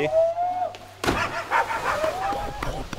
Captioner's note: shouts